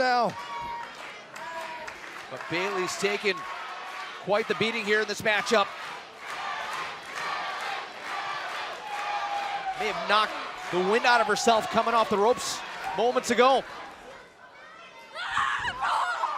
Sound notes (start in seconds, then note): 7.5 fans chanting